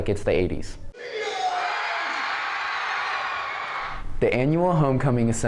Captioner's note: cheering